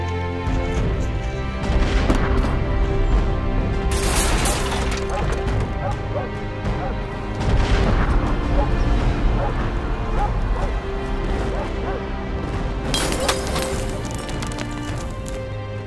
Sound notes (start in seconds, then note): 0.0 music continues faintly; 1.5 dogs barking; 1.5 glass breaking; 1.5 sounds of artillery shells being fired